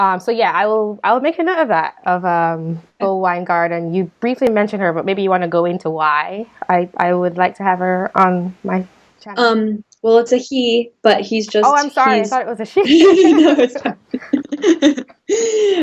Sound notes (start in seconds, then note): 12.8 both laughing